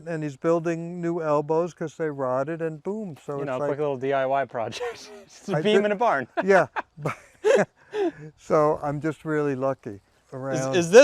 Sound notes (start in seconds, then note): 4.7 both laughing; 4.7 laughs